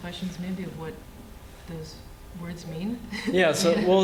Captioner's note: laughter